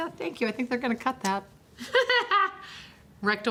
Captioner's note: laughs